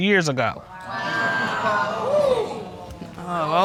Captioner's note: audience exclaiming